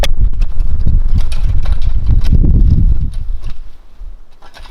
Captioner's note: rake scraping